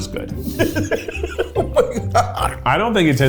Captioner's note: laughs